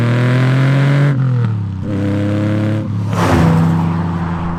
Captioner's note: exhaust pipes rumbling